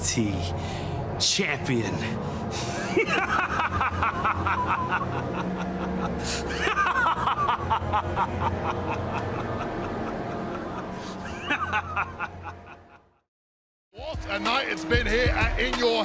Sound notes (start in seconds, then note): 2.6 laughs